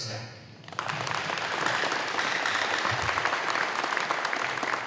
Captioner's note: audience applauding